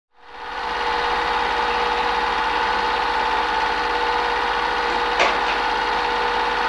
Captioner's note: reel tape sound throughout